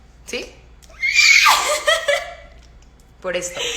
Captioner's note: Maca dolphin sounds intesify